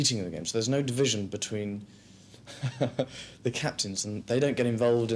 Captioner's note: laughs